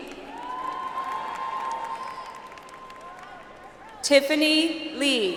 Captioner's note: audience applauds